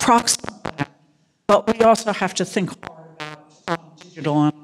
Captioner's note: crackling; audio cutting out